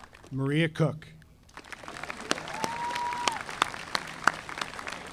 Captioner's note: audience applauding